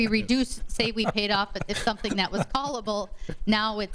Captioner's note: laughing